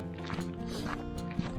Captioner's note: sniff